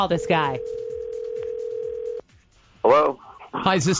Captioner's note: phone rings